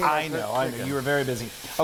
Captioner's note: none